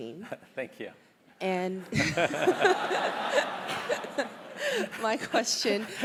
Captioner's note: laugh